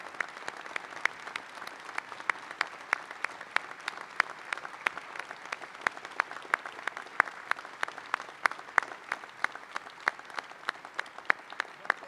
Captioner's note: applause